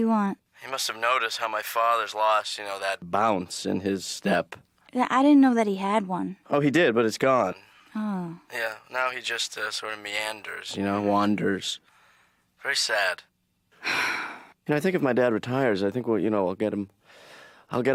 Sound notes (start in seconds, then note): 13.8 exasperated sigh